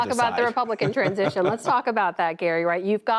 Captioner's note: laughter